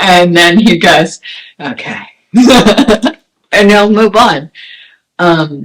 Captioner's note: laughs